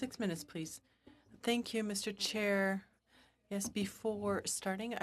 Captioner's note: speaking french